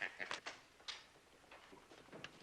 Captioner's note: laughs; door opening